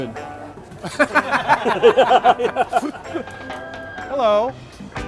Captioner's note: man laughing